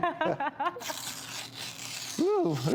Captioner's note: paper rips